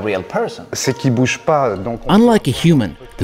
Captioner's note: speaks French